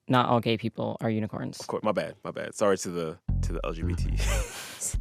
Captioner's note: laughter